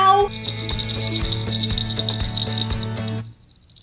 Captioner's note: bells jingling